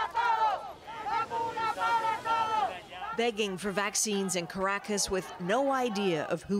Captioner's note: chanting